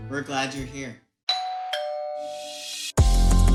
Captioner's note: bell ringing; upbeat music